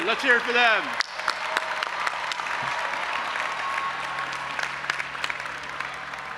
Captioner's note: audience applauding and cheering